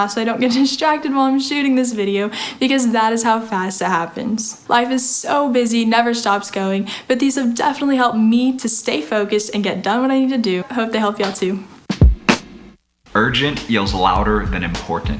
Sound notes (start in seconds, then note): 11.6 clapping; 11.8 drumming